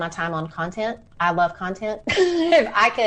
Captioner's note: laughs